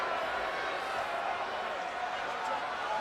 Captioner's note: none